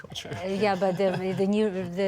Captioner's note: laughter